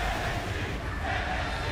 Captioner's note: fans chanting